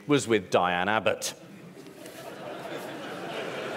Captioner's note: laughter